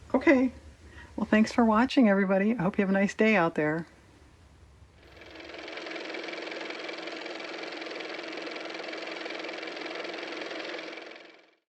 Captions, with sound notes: okay well thanks for watching, everybody i hope you have a nice day out there (car motor)